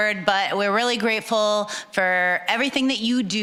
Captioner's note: none